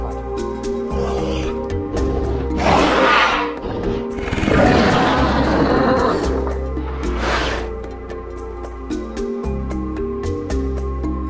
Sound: concavenator Sounds

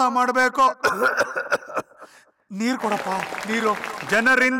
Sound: coughs

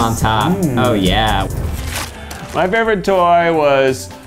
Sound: paper tearing

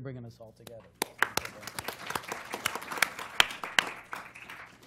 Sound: applause

